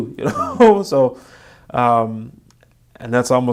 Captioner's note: laughing